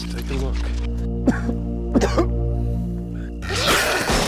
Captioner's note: both coughing; growling; gunshots